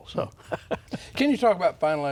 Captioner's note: laughing